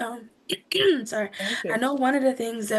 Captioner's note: attendee clears throat